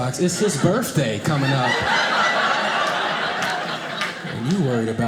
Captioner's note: audience laughing